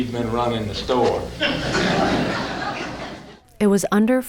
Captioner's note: laughter